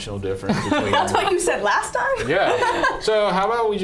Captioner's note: laughing